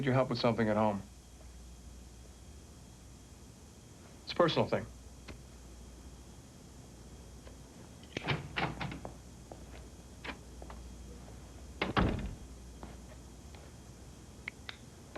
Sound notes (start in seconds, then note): none